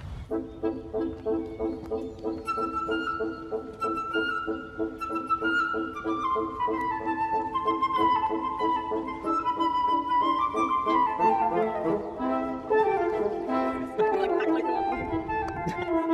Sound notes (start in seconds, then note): 5.3 happy Upbeat Classical Music; 5.3 soft background chatter